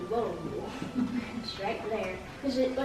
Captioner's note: laughing